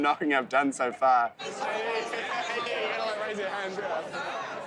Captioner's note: people chattering